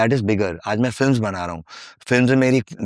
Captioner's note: speaking hindi